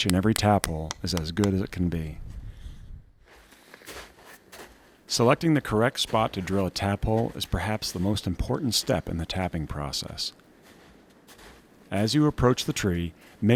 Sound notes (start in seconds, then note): 3.5 snow crunching